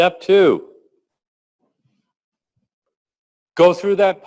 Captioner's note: pause